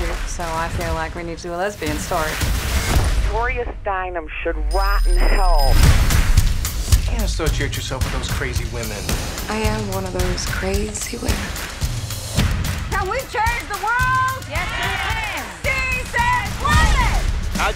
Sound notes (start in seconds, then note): 5.8 phone ringing